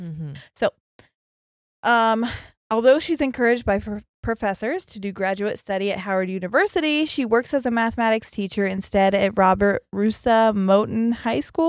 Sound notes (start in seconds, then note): none